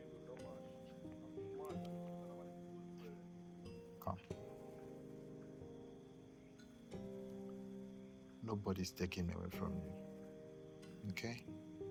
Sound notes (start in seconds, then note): 1.6 man talking outside